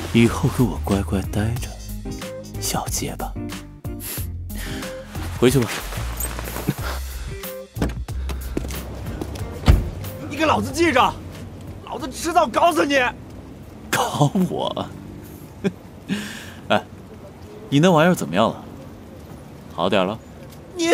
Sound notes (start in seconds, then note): 13.9 laughs